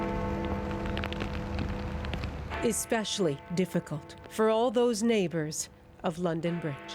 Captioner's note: bells tolling